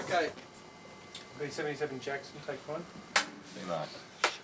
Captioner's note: clapboard Claps